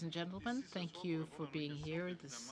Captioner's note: speaking French